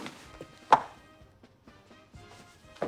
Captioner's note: clicking heels